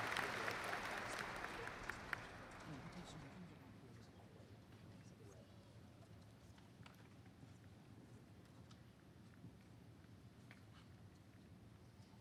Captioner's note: cheering and applause